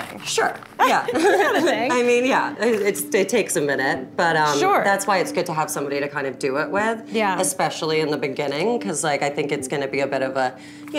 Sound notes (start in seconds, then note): 0.8 both laugh